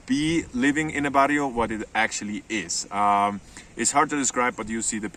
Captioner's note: speaks foreign language